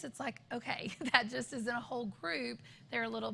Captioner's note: laughter